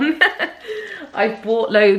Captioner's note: laughs